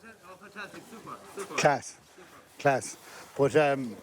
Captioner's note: voiceover